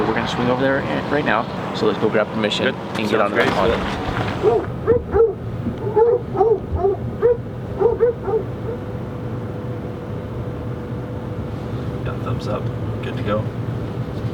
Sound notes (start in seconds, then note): 4.6 dog barking